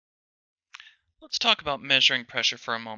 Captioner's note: voiceover